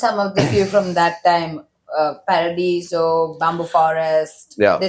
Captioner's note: clears throat